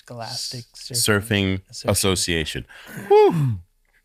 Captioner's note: sighs loudly